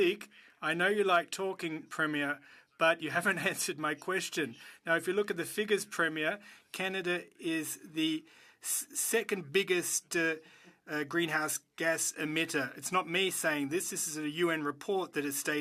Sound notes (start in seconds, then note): 3.6 speaking French